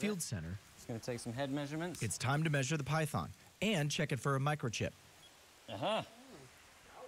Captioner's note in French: laughs